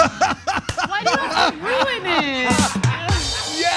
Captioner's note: laugh